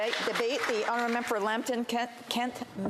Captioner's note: applause